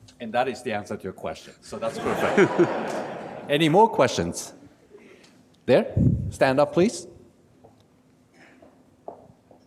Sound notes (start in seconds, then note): 1.8 audience laughs